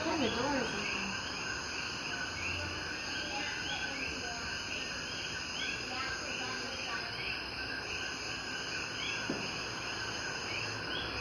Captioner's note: crickets and chatter